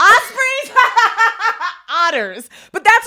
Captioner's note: women laughing